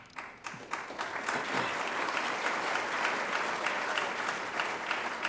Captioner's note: audience applauding